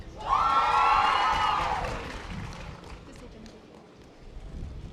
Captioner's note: audience applause